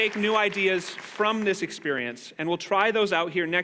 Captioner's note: applause